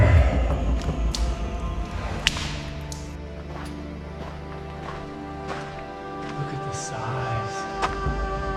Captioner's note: footsteps